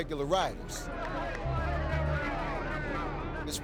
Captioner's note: men cheering